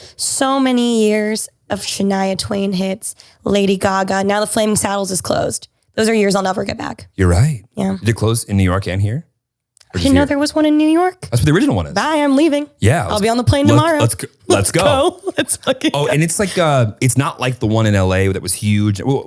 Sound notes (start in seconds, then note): 14.4 laughter drowns out speaker